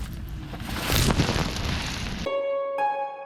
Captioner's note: dumping dirt